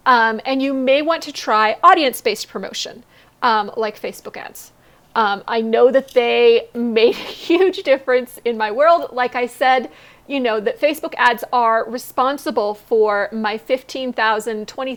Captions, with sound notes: And you may want to try audience-based promotion, like Facebook ads. I know that they make (laughs) a huge difference in my world, like I said, you know, that Facebook ads are responsible for my $15,000,